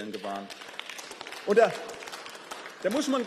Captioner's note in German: Beifall